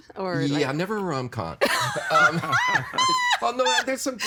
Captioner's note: laughing